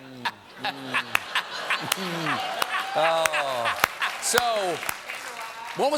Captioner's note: laughter